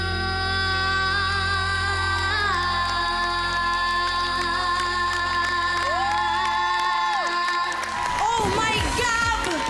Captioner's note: loud cheering, applause